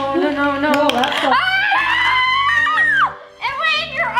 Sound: screaming

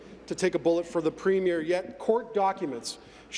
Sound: none

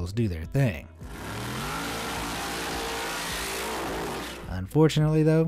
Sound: engine roaring

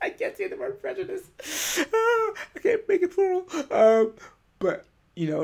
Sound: laughing

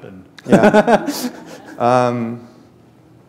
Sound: chuckle

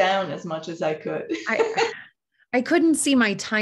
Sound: chuckles

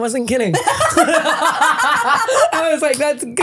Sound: laughing

